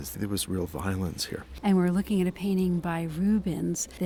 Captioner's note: voiceover